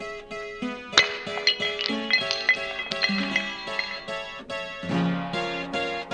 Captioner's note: clattering